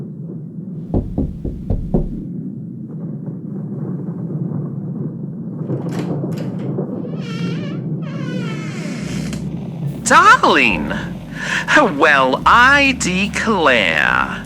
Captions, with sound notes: (Listener knocks on door fx) (Alastor opens door fx, soft jazz and fire fx) Darling! Well, I declare!